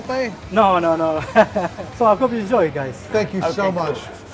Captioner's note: laughs